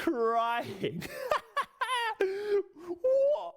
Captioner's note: laughs